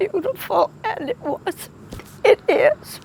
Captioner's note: crying